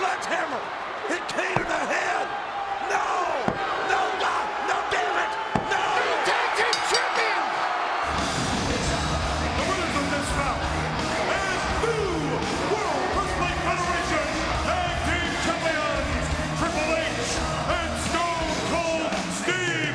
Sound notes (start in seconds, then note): 6.6 bell dinging; 8.2 announcer speaking faintly off mic